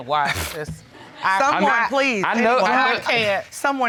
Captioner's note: stutters